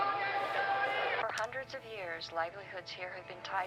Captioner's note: television